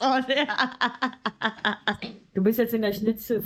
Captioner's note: laughing; speaking in foreign language